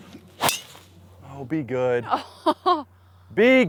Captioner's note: laughs